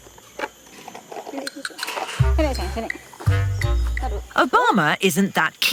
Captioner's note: in foreign language